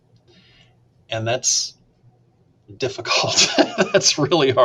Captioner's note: laughs